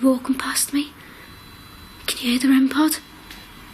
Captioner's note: beeps